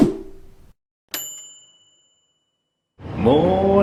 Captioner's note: ping